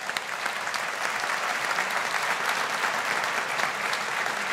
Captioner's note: audience applauding